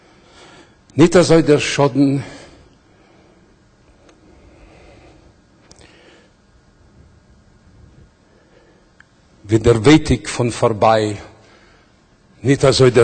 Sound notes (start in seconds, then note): 0.9 Yiddish